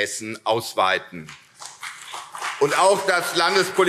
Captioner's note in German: Beifall CDU und vereinzelt SPD